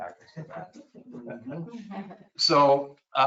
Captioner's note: people chuckle